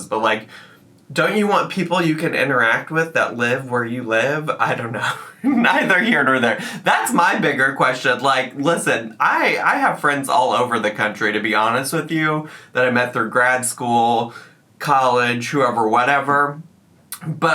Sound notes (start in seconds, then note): 5.1 laughs